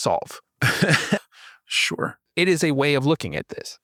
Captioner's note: chuckles